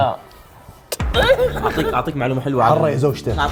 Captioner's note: kiss